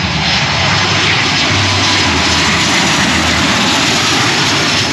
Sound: plane engine roars

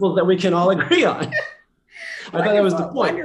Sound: laughter

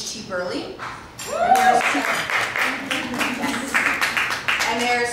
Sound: applause

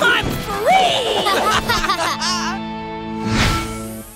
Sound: laughing

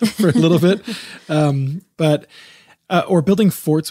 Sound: both laughing

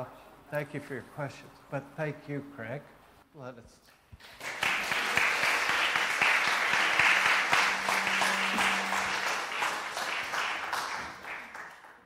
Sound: applause

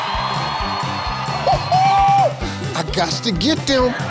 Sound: crowd cheering

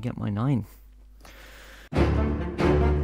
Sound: deep inhale

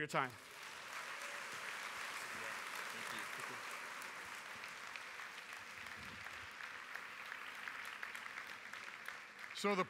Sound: applause

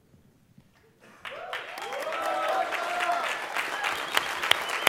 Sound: applause

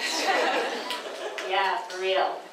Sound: audience laughs

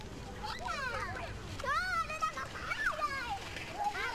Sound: kids in the back playing

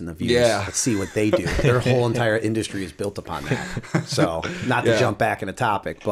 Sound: laughter

